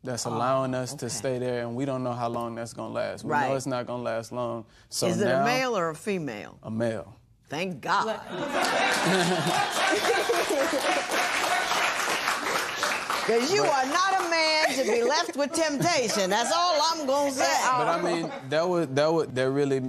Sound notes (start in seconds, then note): 8.4 laughter and applause